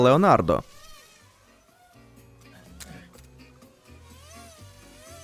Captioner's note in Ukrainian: дзижчання робота